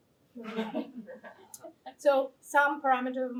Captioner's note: laughter